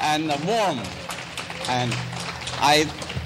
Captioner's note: clapping